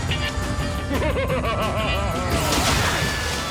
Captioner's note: evil laughter